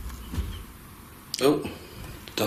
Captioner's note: soft thudding